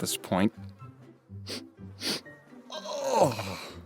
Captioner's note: Fireheart sniffs himself